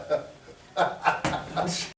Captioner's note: both laugh